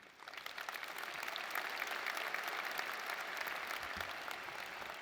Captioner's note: audience applauding